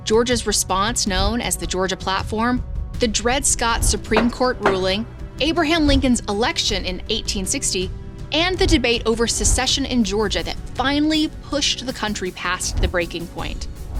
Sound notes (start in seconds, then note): 4.0 gavel thudding